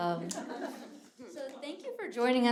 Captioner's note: audience laughing